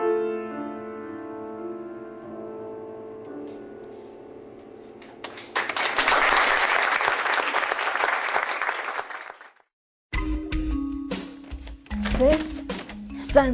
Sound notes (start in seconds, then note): 5.2 applause; 10.1 upbeat music